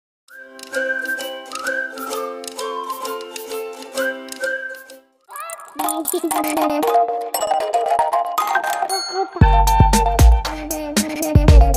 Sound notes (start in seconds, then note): 4.4 foreign